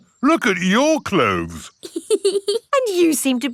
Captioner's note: laughs